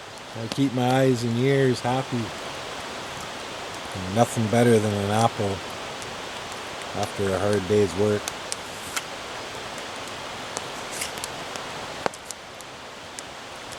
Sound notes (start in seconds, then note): none